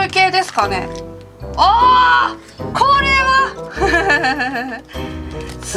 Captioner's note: laugh